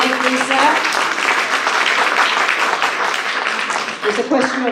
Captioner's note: applause